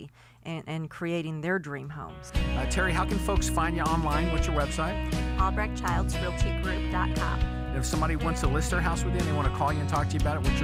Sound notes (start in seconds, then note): 7.7 voiceover